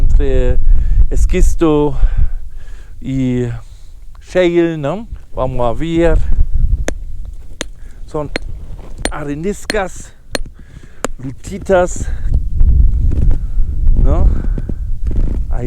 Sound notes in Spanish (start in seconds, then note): 7.2 sonido martillo